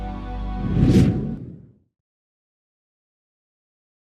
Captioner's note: logo whooshing